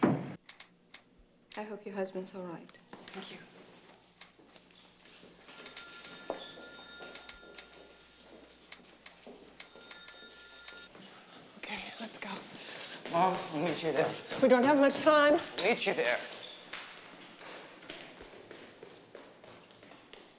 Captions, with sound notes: I HOPE YOUR HUSBAND'S ALL RIGHT. THANK YOU. [TELEPHONE RINGS] [RING] OK, LET'S GO. MOM, I'LL MEET YOU THERE. WE DON'T HAVE MUCH TIME. I'LL MEET YOU THERE.